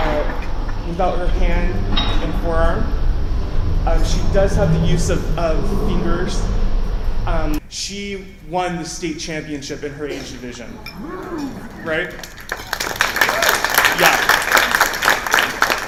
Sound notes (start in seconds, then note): 12.1 applause